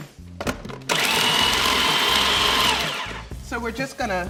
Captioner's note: processor whirring